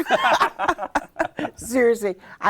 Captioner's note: both laugh